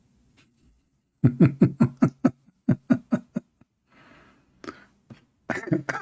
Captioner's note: Ketawa